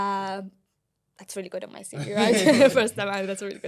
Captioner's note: laughter